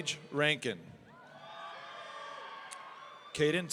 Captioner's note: audience cheering